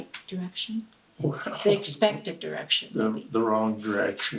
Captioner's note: chuckles